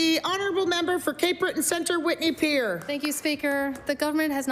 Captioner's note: applause